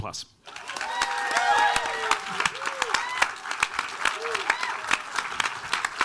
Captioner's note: audience applauding and cheering